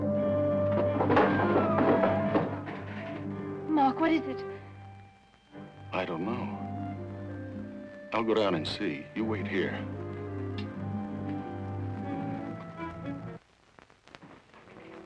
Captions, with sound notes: (body thuds) - Mark, what is it? - I don't know. I'll go down and see. You wait here.